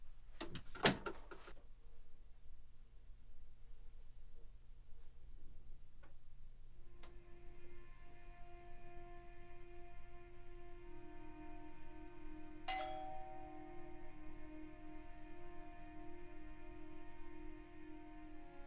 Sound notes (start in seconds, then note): 7.3 solemn ambient music; 12.6 doorbell rings; 15.1 solemn ambient music